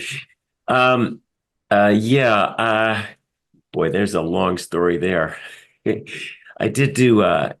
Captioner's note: laugh